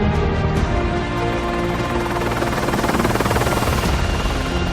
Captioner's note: helicopter whirring